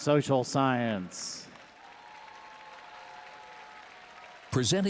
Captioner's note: audience applauding and cheering